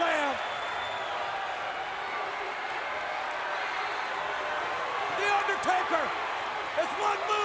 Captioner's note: applause